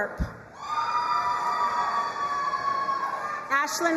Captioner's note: crowd cheering and applauding